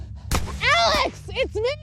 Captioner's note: gun bangs